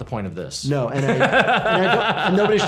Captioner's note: laughs